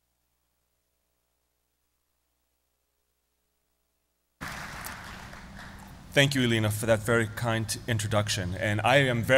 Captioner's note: applause